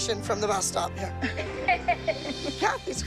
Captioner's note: laughter